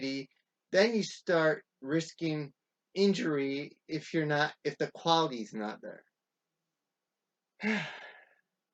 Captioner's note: deep sigh